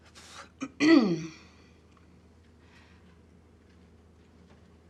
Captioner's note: Tania clears throat